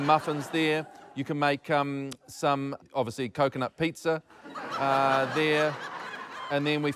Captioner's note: laughter